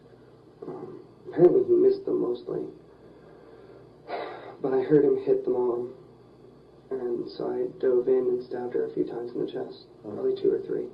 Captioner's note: sigh